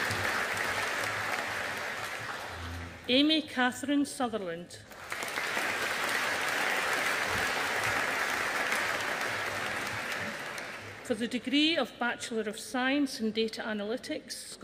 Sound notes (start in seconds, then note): 4.9 audience applauding